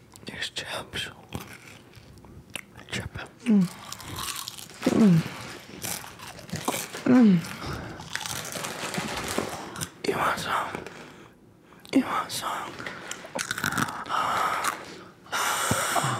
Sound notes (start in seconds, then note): 3.7 chips crunch; 4.8 moans; 13.9 moans